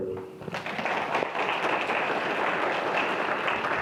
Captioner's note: clapping